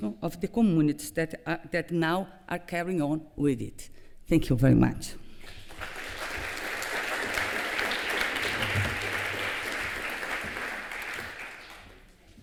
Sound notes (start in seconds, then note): 5.4 applause